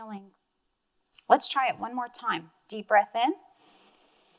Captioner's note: inhales